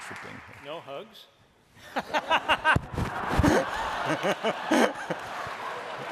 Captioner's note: laughing